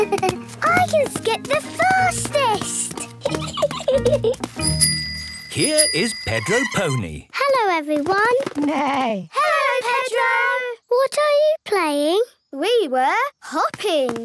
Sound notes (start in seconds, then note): 4.6 bike bell; 6.3 neigh